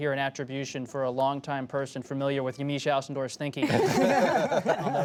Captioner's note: laughter